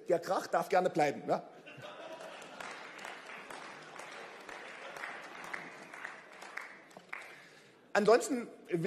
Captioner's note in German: Beifall